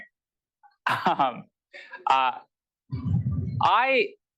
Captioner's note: laughter